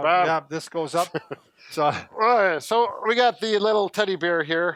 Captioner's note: laughs